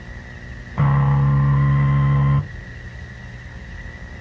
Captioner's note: game buzzing